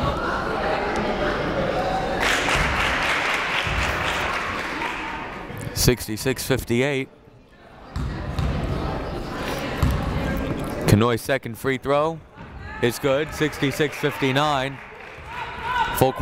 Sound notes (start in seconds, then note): 2.2 crowd claps